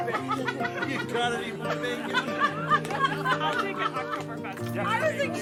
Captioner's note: chattering continues; laughter